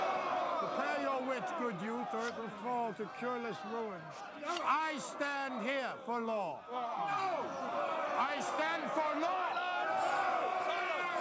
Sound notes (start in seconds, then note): 6.6 crowd shouting